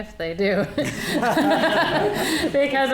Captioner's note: audience laughing